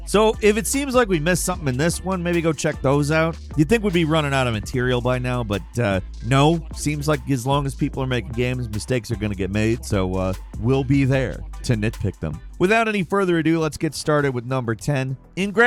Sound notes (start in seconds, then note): none